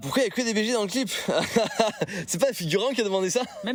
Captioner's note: laugh